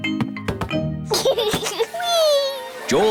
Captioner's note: giggles